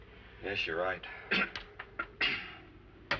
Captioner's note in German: Lachen